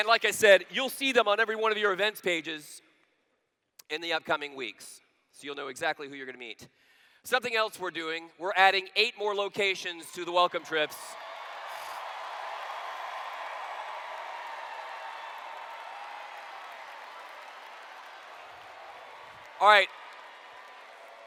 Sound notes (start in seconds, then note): 12.5 cheers